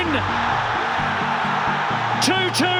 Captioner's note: crowd erupts